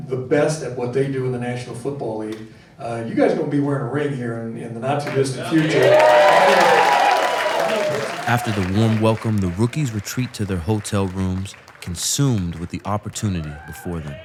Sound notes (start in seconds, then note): 5.6 crowd cheering